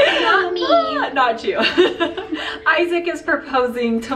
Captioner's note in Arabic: يضحك